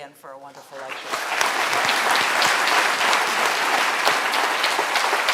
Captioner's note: applause